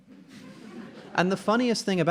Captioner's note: audience laughing